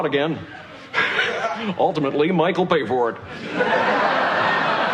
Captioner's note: Risos